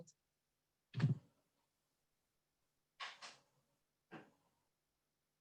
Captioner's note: silence